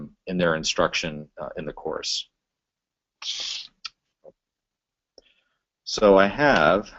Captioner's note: pause